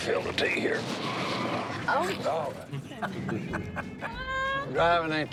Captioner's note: laughing